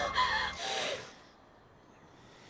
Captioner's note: crow cawing; gasping; gasps